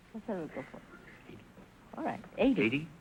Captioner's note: whispering